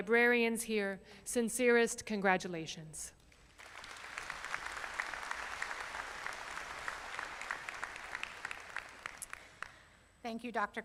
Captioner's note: applause